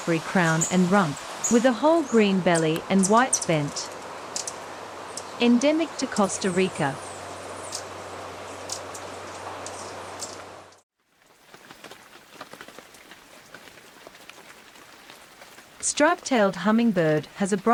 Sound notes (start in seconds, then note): 7.8 birds chirping; 11.0 raindrops on leaves